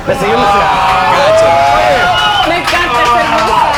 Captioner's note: cheers and applauses